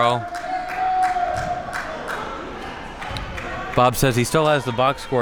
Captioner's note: spectators cheering and applauding